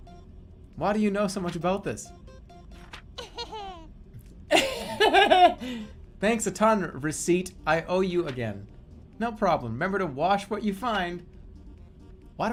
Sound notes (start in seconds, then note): 4.5 ugly laugh